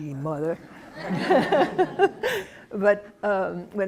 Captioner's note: laughter